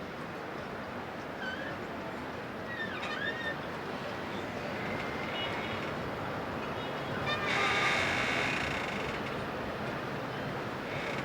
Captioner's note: sound of waves and the boat engine